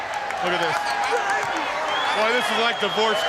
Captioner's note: crowd chatter